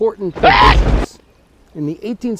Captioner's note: HL Scientist Scream